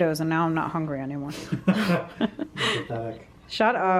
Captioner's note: laughter